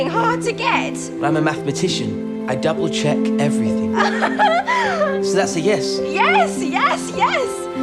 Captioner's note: she laughs